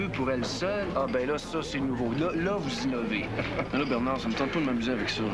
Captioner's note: Rire